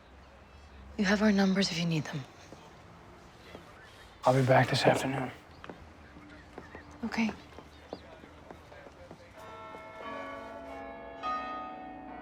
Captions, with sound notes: You have our numbers if you need them. I'll be back this afternoon. Okay. ( bells tolling )